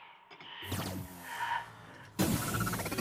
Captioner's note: powering down; mechanical whirs